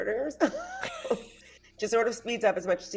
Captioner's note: everyone laughs